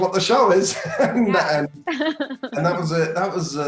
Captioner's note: Elizabeth laughing; laughs